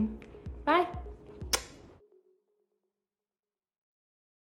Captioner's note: kiss